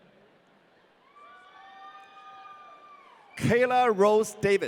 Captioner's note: audience cheering